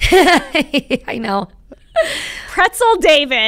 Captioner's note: chuckling